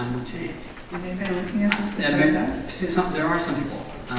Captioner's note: voiceover